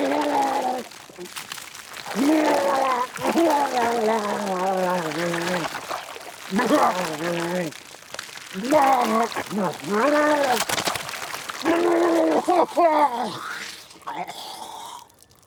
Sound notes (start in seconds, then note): 2.5 Walter retching continues; 11.5 Walter sputtering